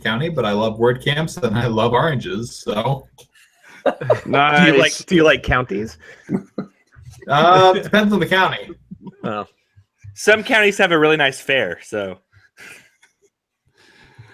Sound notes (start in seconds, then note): 3.8 everyone laughs